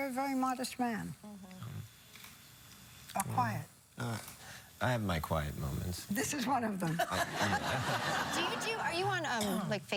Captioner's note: laughter